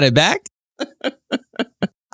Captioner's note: laughs